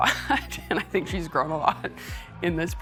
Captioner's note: laughing